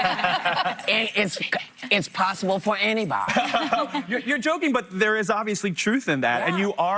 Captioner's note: laughter